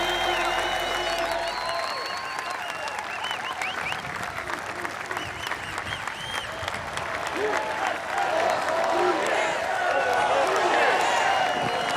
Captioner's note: applause